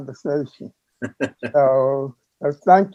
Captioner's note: laughing